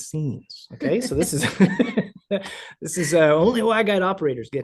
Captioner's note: laughs